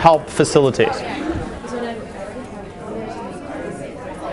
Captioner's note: indistinct chatter